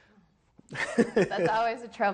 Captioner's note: laughs